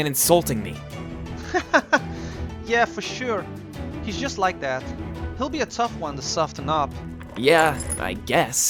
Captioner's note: laugh